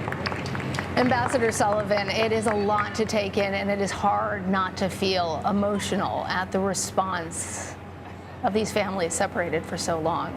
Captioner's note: applause